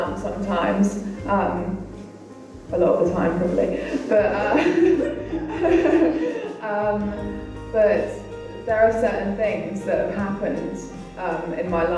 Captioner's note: laughter